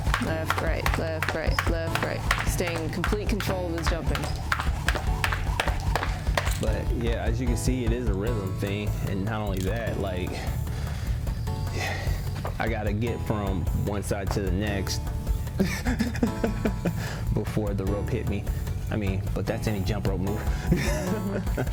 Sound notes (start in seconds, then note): 15.6 laughs; 20.6 laughs